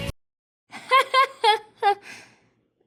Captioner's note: laughing